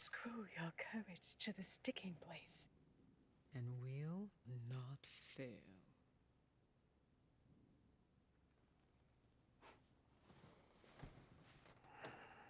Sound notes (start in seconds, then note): 10.1 scoffs